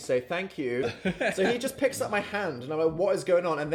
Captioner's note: chuckling